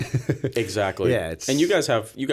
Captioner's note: chuckle